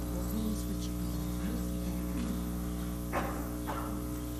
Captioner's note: participants chatting